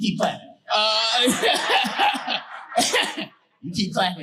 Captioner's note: audience laughing